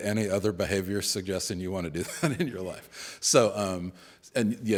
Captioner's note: chuckles